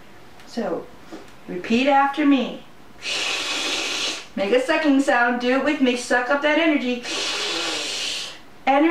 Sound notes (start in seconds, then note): 3.0 sucking sound